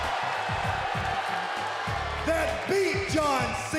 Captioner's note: crowd boos